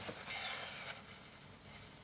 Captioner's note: sighs